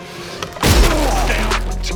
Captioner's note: crash!